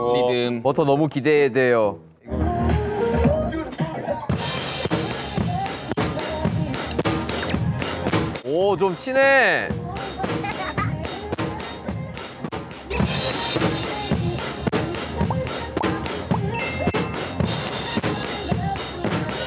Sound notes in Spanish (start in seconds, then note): 10.4 Emocionada